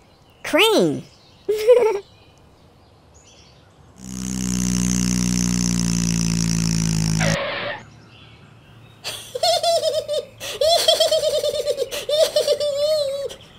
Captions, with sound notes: crane ha ha ha [ car motor ] [ skid ] Sara Uppet> he he he he he